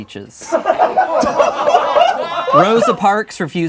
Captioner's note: laughing